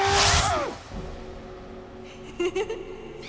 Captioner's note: giggling